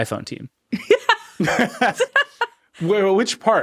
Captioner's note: laughing